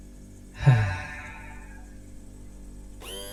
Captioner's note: Ace sighs wistfully